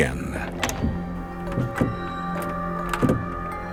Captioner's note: doorknob rattling